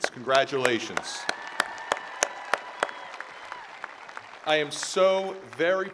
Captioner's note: attendees applauding